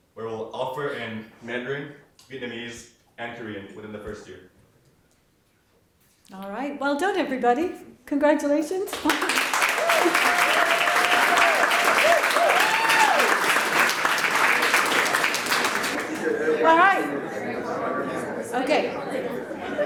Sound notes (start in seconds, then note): 8.9 audience applauds